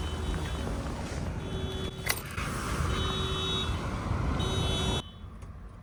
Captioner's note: car alarm going off